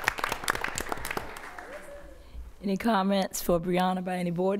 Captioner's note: applause